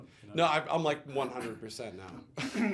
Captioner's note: laughs